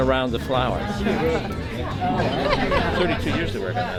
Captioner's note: crowd chatter